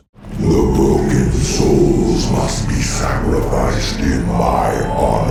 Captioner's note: demon voice